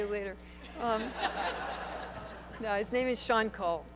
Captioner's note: laughter